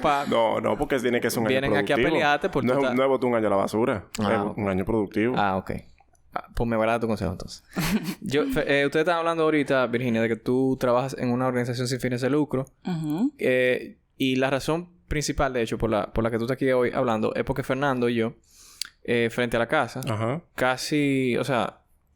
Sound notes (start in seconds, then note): 0.0 laughs; 7.8 laughs